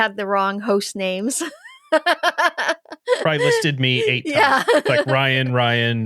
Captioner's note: laughing